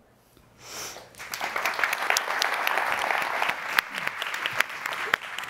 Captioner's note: audience applauding